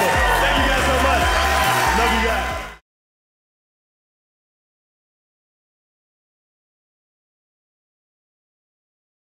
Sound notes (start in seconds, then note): 0.0 audience cheering